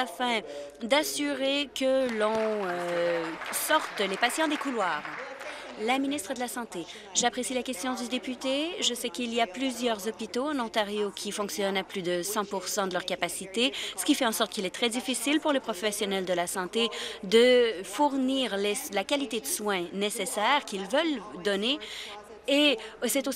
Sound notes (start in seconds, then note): 4.3 applause